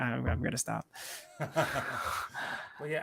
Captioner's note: laughter